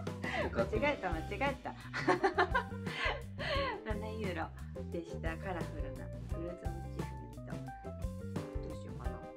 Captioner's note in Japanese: 笑い